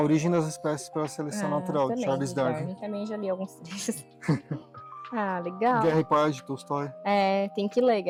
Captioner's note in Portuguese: risadas